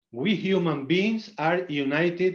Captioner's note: none